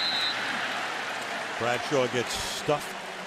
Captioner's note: whistle